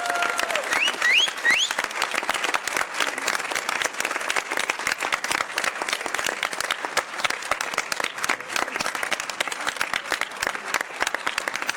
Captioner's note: cheers and applause